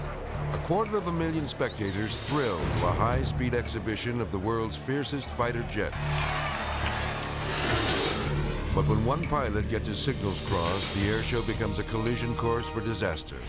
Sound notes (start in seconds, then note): 5.7 spectators cheering; 13.2 tense music